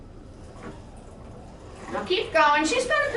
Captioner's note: pedals cycling